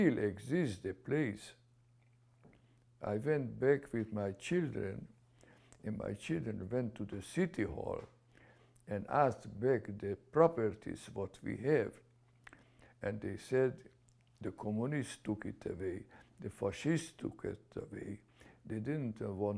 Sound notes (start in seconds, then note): none